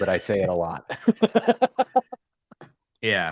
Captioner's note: laughter